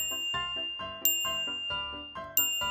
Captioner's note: ting!